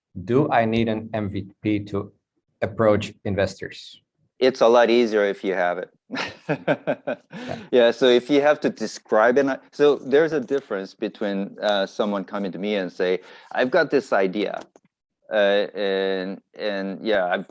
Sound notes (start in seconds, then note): 6.1 laughs